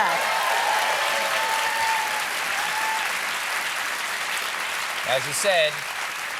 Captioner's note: cheers and applause